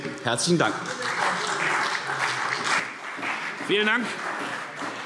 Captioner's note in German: Beifall CDU und vereinzelt BÜNDNIS 90/DIE GRÜNEN